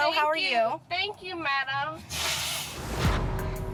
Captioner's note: blows nose